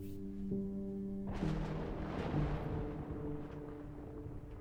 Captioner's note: thunder cracking